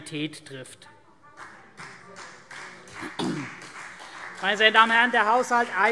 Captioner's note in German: Beifall CDU und BÜNDNIS 90/DIE GRÜNEN